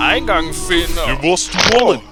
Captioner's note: joints crack